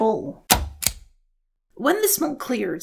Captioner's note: click